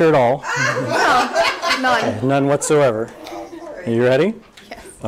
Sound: audience laughter

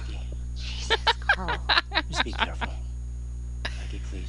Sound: laughter

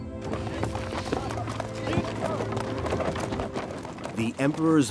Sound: horse hooves clopping; carriage rattling

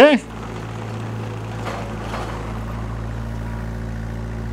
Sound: engine purring

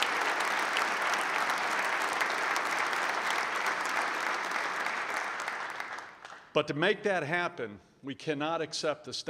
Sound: applause

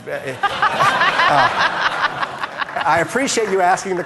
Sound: audience laughing

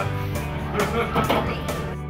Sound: laughter

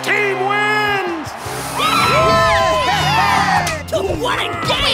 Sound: cheering

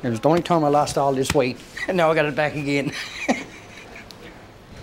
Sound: laughing

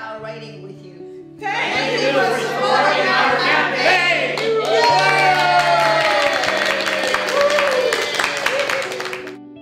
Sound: cheering and clapping

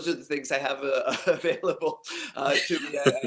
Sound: laugh

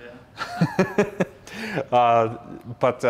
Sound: laughs

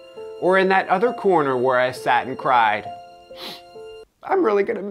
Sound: sniffling

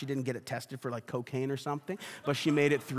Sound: congregation laughs

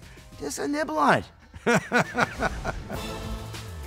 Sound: laughs; upbeat music

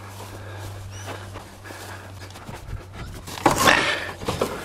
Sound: breathes heavily; table clangs

